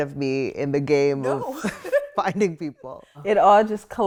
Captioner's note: both chuckle